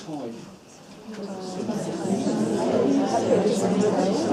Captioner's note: chatter